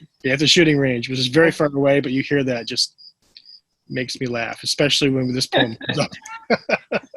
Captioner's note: laughter